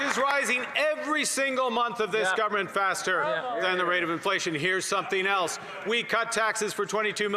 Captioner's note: cheering and Applause